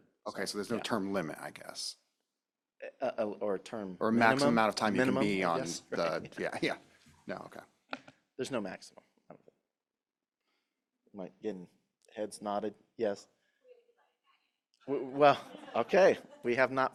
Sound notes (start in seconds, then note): 10.8 speaker off mic